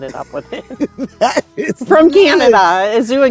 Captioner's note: laughing